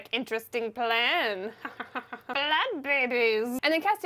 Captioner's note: evil Laughter